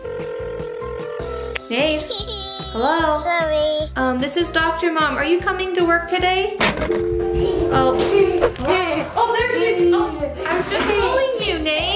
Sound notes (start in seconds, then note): 0.2 line trilling; 6.9 disconnect tone